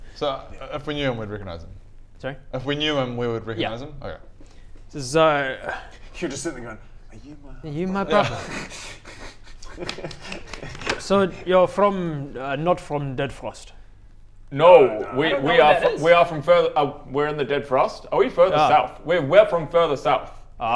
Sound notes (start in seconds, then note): 9.6 slap slap